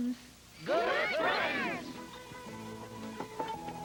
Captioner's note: Spud laughs